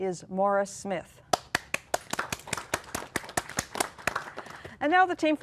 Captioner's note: applause